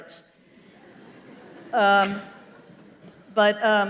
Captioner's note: laughter